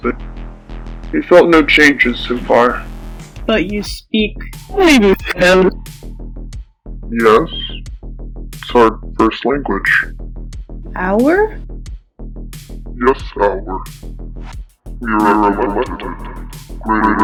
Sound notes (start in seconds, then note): 5.3 voice multiplies and distorts